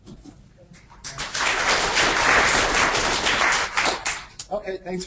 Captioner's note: audience applauding